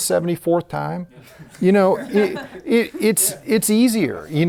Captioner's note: laughs